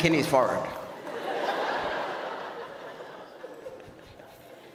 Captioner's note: audience laughs